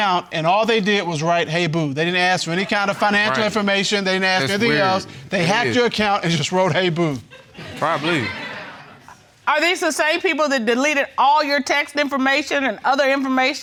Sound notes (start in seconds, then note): 7.0 audience laughing